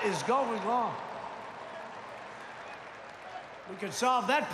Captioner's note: applause